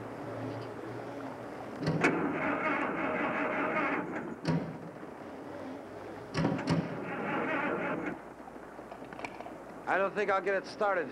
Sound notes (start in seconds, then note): 1.9 engine sputtering